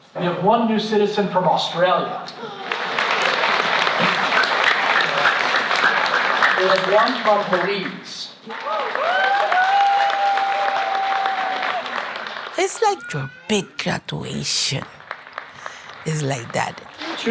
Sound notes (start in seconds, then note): 2.4 crowd applauding; 8.6 crowd cheering